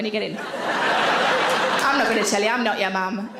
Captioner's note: audience laughs